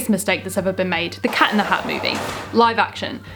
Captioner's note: jail bars slamming